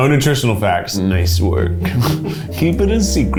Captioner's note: laughs